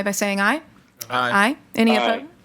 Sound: in Unison

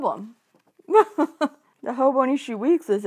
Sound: laughs

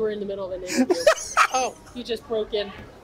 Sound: laughs

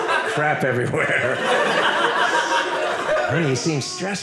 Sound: audience laughing

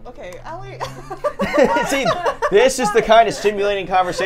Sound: laughs

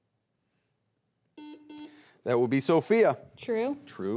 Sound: buzzer beeps twice

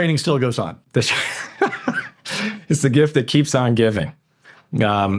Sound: chuckles

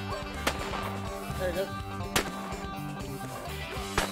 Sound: gun fires; gun fires

